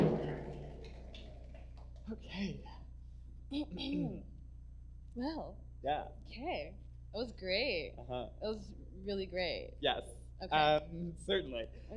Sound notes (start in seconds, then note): 0.0 drumming ends; 3.7 clears throat